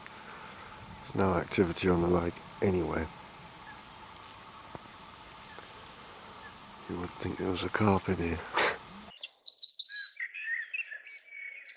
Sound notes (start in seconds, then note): 8.3 laughs